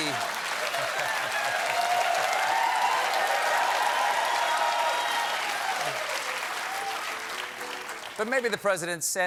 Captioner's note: cheers and applause